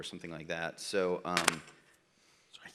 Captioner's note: static